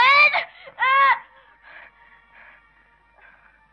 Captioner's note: yelling